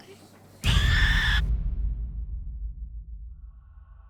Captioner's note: Nelly screaming